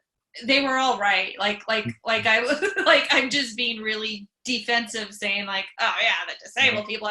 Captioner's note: laughs